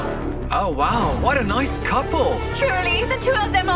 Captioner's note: male Voice